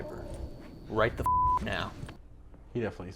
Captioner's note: beeping